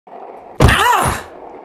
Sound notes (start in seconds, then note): 0.6 crash